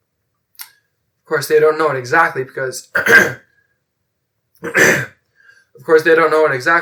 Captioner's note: cough, clears throat